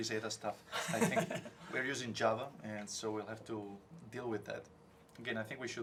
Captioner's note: laugh